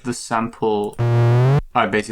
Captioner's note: rising electronic tone